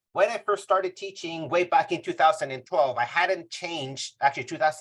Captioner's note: none